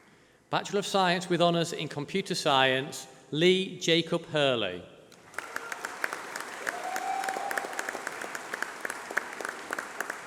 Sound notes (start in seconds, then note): 5.2 applause